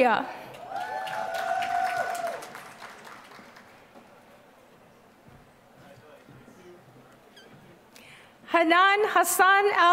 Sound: applause

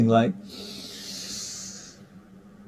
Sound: deep breath

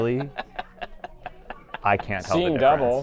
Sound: laughs

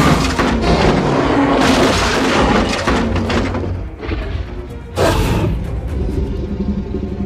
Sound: vehicle crash sound

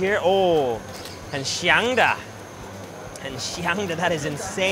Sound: speaking in foreign language

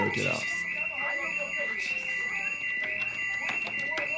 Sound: alarm blaring

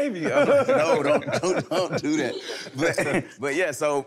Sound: laughing amusingly

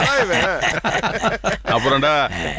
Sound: laughs

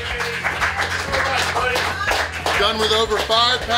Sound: crowd cheers; crowd applauds

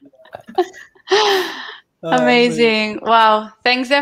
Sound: chuckles

